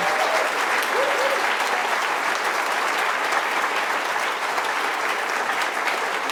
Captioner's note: applause